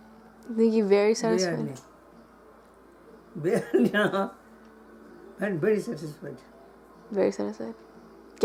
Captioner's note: laugh